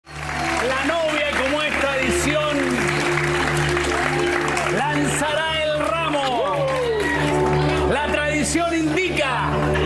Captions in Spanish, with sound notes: HA LLEGADO OTRO MOMENTO ESTELAR! (APLAUSOS) (APLAUSOS)